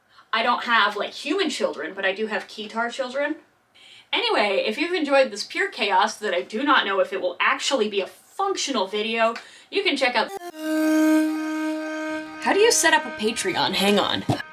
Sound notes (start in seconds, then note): 10.2 flashback noise